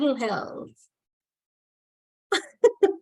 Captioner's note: laughter